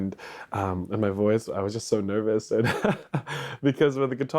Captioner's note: chuckles